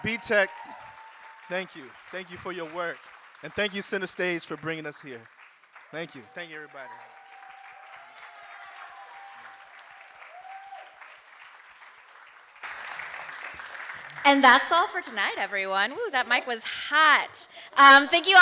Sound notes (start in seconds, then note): 8.1 audience cheering and applauding